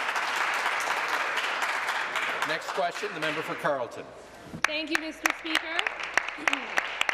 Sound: applause

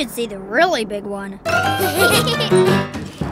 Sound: laughing

